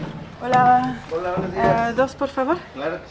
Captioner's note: in Spanish